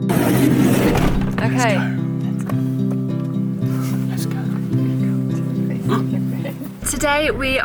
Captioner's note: whispering